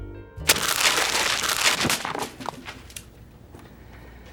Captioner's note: paper crumpling